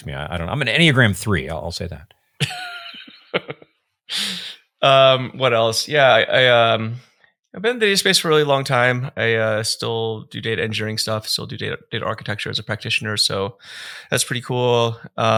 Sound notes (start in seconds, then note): 2.4 chuckling